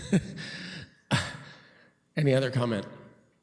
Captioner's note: laughs